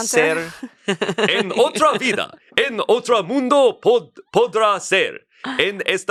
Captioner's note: speaks in foreign language